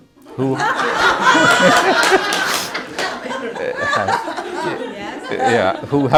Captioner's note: laughter